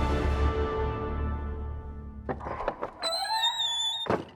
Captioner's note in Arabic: صرير الباب